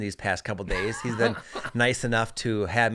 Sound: laughs

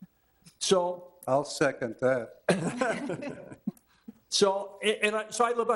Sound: all chuckling

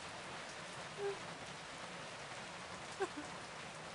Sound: sobbing

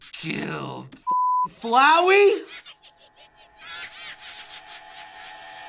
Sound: Flowey cackling

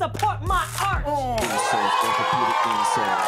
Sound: cheers and applause

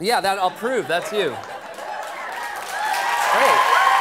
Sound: laughter; cheers and applause

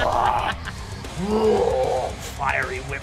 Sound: mimics whip lashing; growling and roaring

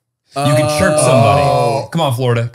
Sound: they all groan

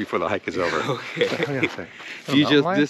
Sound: chuckles

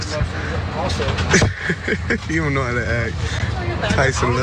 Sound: laugh

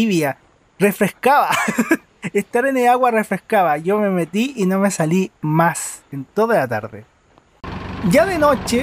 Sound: laughs

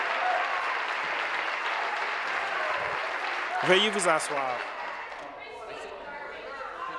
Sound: applause

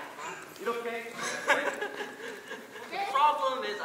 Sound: laughing

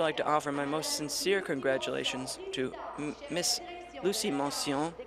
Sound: speaking in french

